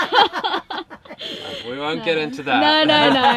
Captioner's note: laughing